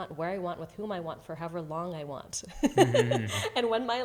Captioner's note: laughs